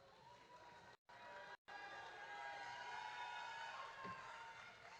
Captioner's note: audience cheering